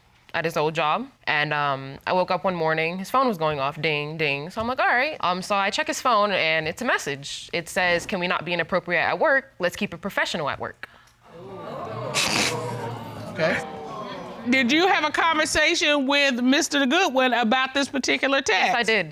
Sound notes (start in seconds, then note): 11.3 audience exclaiming; 11.3 chuckles